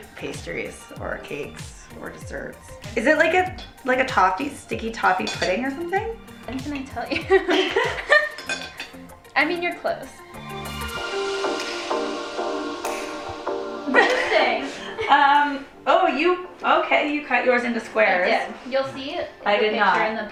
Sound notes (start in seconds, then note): 7.0 laughing; 10.9 funky music